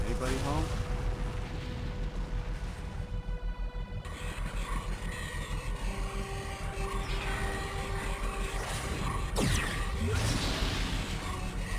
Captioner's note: explosion